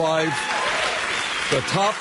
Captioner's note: audience cheering